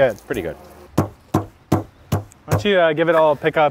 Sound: wood hammering

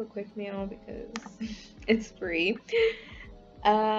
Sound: laughs

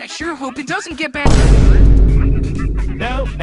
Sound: boom

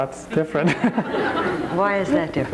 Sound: crowd laughs

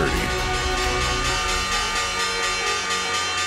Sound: bell rings

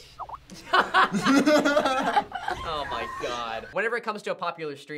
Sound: laughs

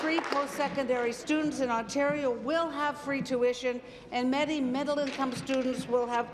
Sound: applause

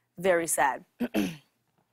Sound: clears throat; sighs

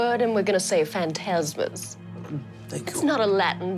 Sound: none

